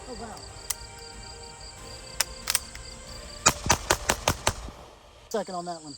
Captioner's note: gun shots